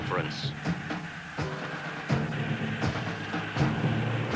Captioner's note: soldiers yelling